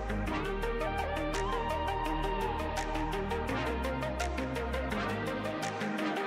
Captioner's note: relaxed electronic music; rhythmic fingers snapping